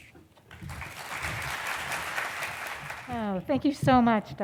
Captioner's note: applause